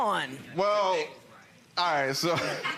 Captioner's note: laughs